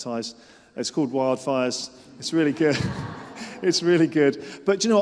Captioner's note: laughter